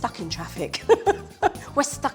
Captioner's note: laughing